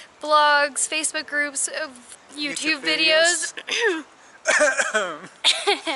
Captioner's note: coughs